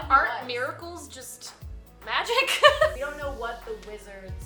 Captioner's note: laughs